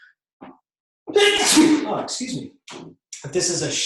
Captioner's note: sneeze